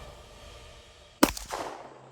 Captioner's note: epic music; gun shots; dramatic music